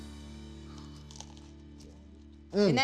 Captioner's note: moist crunch